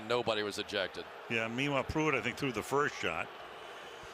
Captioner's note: booing